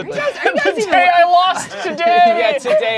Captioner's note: laughs